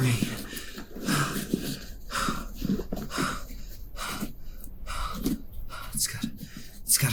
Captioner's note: panting